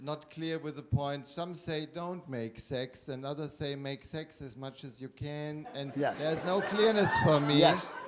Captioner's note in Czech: smích